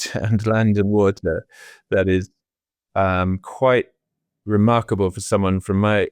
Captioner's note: laughing